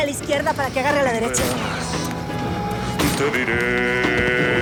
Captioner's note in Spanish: Disparo